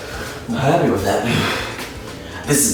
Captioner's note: sigh